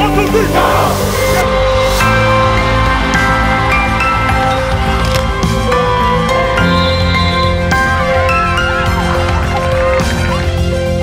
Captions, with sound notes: - One, two, three! - Go! (crowd cheering) (crowd clapping) (referee whistle whistling) (upbeat music)